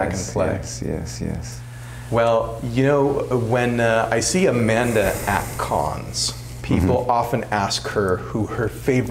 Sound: tapping

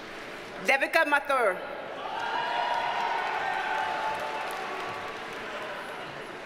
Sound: audience cheers and applauds

